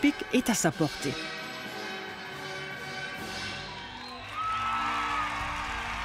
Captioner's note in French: acclamations